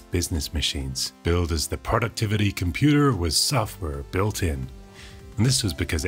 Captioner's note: American accent